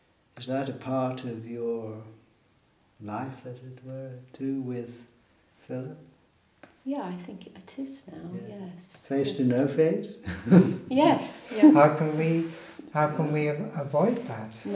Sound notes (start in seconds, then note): 10.1 chuckles